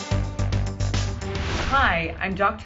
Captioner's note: intense fast paced music; air whooshing